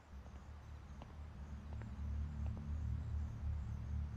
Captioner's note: footsteps tapping